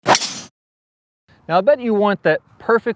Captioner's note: swoosh